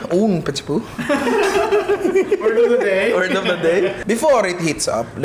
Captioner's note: laughs